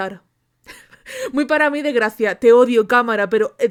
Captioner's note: laughs